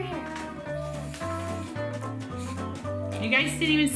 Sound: soft spraying

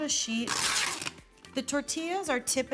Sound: plastic wrap tearing

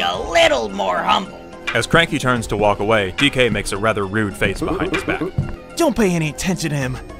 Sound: cane tapping on wood with footsteps

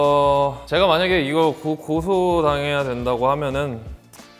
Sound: speaks Korean

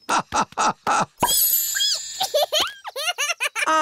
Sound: laughing; squeaking; giggling

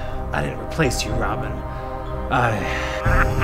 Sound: sighs

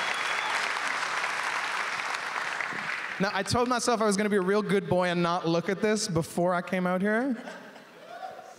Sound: applause

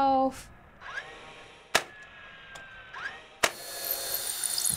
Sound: construciton sounds

